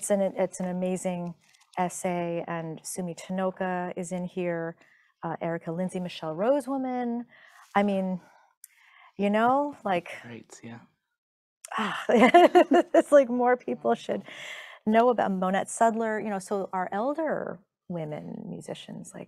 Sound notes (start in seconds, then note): 11.5 reveling; 11.9 chuckling